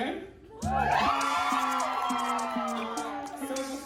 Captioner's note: crowd cheers